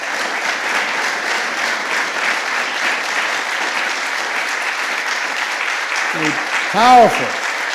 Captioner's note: applause